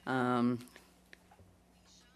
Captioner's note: speaking French